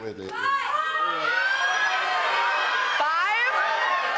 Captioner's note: audience shouting